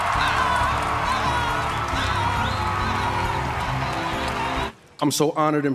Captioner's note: audience cheering